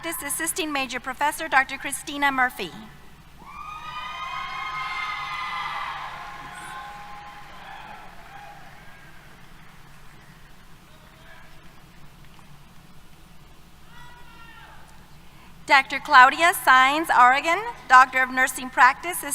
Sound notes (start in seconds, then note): 3.5 applause, Cheers